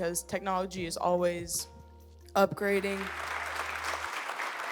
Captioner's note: audience applauds